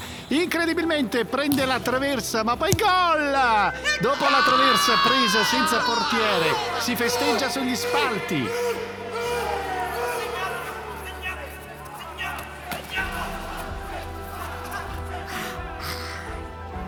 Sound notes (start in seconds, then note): 10.4 all exulting; 14.0 shouting in unison